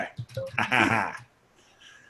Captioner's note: laughs